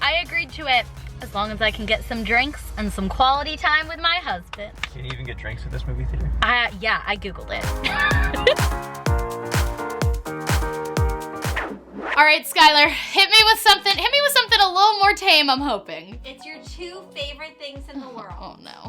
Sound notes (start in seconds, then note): 7.8 laughs; 9.0 upbeat music